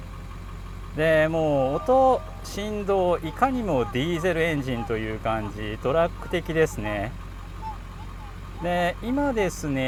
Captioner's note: laughs